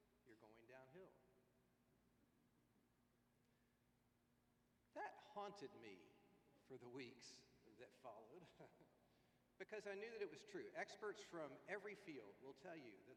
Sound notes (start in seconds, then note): 8.2 laughs